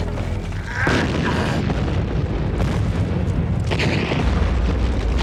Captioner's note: loud explosions